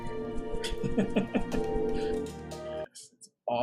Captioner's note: laughs